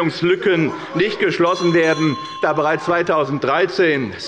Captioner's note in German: Unruhe – Glockenzeichen des Präsidenten